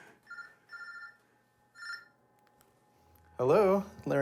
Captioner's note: phone ringing